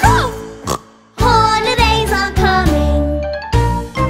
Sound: snorts

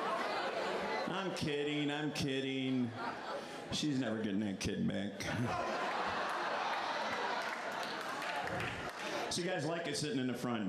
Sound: laughter

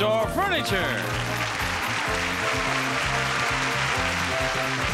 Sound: audience applauding

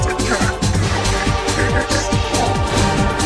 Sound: heroic laughter

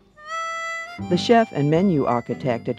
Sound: voiceover

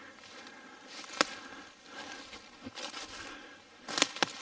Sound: twigs snapping

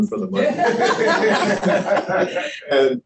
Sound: laughter

